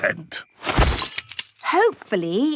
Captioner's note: clang-ruffle-thump